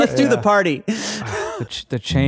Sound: chuckling

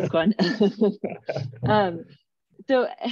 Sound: laughter

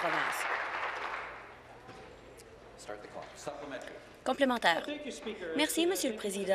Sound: applause

